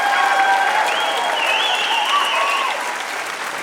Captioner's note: cheering intensifies